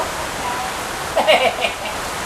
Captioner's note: laugh